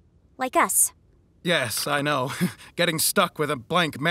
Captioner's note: laughs ruefully